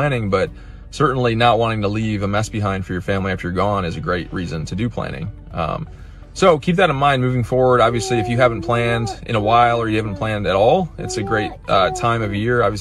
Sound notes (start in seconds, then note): 7.9 child talking